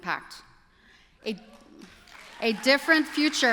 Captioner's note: applause